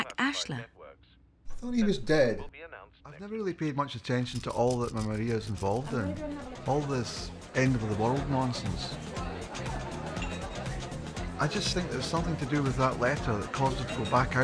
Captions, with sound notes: Looks like it's from Jack Ashler. - Thought he was dead? I've never really paid much attention to all that my Maria's involved in. All this end of the world nonsense. (upbeat music) (people chattering) I just think there's something to do with that letter